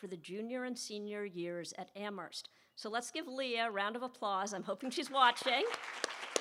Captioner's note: applause